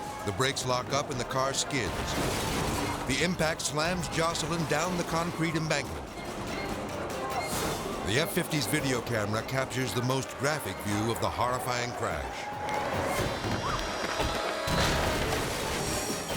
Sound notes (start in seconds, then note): 1.6 car crashes; 12.5 tires screeches; 13.5 yells; 14.6 car crashes